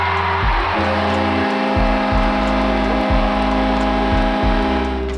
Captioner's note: crowd cheering; horn blowing